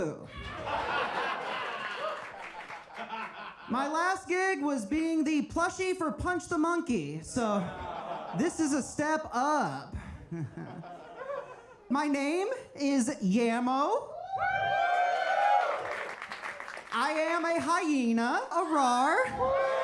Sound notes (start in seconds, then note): 0.4 audience laughs; 14.2 audience cheers